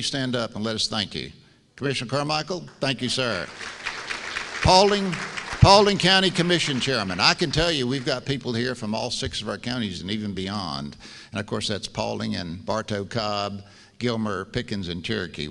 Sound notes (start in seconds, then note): 2.8 applause